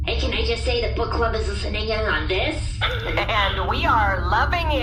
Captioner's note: excited